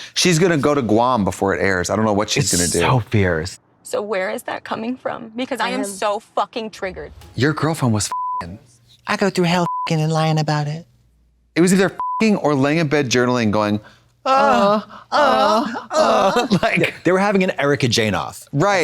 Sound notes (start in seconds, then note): 8.0 beep; 12.0 beep; 15.1 blonde Women yowl